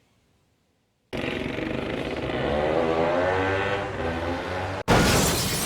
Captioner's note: 2-Stroke sounds